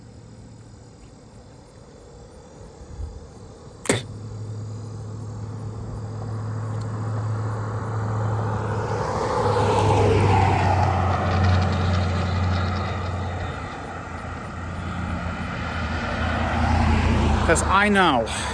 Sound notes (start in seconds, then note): 3.8 Ava spits a third time; 4.6 Traffic on Paulding Road